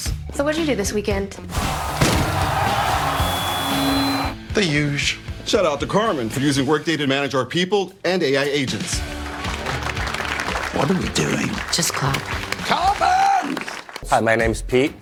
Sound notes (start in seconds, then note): 1.5 crowd cheering; 8.9 colleagues clapping